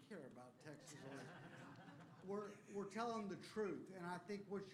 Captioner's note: laughter